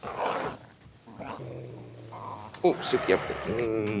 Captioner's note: dogs growling